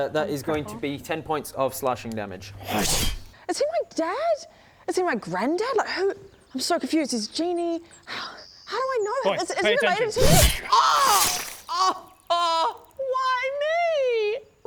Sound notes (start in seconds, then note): 2.6 slash; 10.2 screams